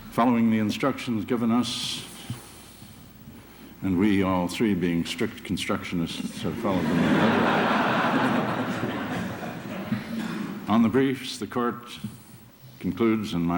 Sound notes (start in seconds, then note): 6.6 laughter